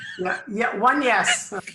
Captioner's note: laughs